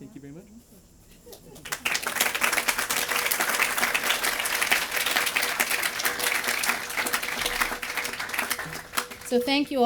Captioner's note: applause